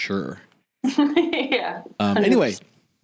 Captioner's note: laughing